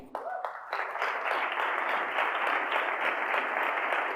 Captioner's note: audience applauding